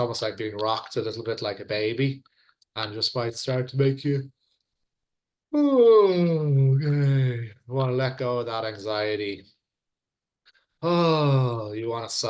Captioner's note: yawn